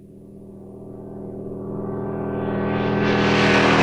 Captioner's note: engine running